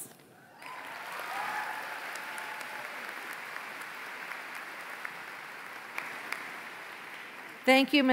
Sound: applause

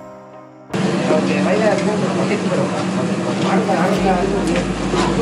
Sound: indistinct chatter

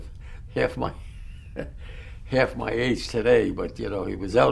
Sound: laughs

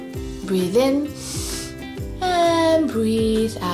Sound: breathes in deeply

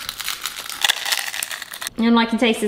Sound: chips crunching

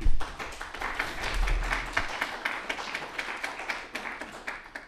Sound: applause

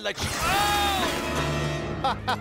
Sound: scientist screams; villain laughs

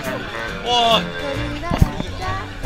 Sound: whine

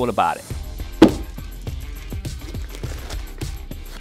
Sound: box thumps

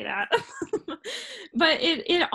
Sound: laughs

